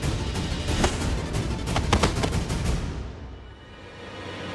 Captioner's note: thudding